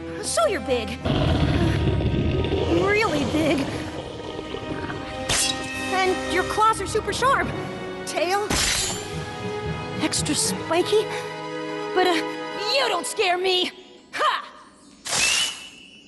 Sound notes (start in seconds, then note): 1.0 growling; 8.5 shing!